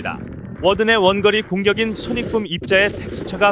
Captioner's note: sonic boom